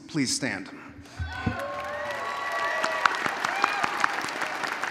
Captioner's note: audience cheering